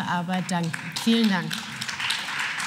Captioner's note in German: Beifall